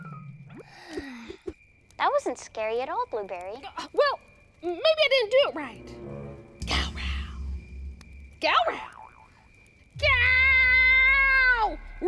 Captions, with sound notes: (yawns) - That wasn't scary at all, Blueberry. - Well maybe I didn't do it right. Gowrow. Gowrow. Gow!